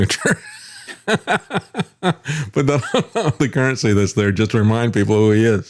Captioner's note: laughing